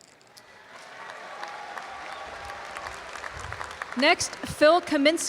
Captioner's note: audience applause